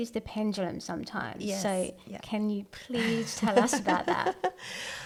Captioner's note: laughs